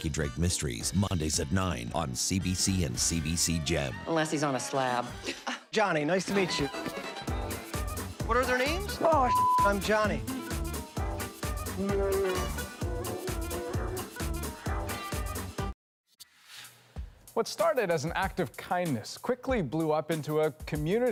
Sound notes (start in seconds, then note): 11.7 roars